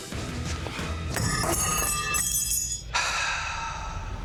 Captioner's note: thudding; clatter; sighs